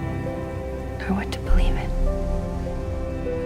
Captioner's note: voiceover